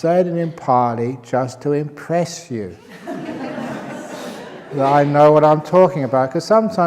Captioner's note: laughter